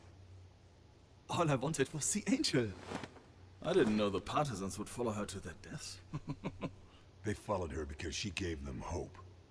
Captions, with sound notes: All I wanted was the Angel. I didn't know the Partisans would follow her to their deaths. [CHUCKLE] They followed her because she gave them hope.